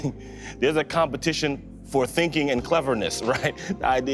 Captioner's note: chuckling